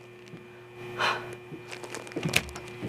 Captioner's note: sigh